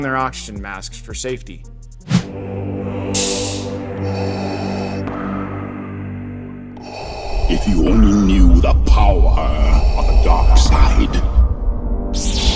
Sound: Darth Vader voice

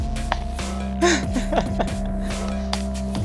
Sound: laughter

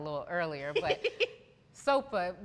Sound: laughs

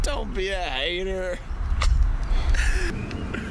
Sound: laughs

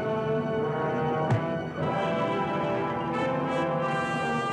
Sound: loud thud; dramatic music

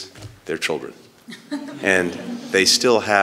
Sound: laughter

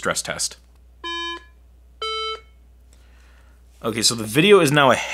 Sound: iPhone beeping

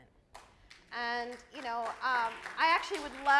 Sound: audience applauds

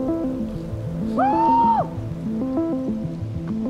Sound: whoops

